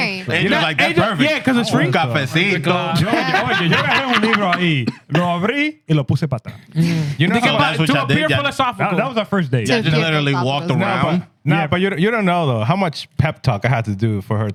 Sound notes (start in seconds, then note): 2.9 laughter; 3.7 speaking Spanish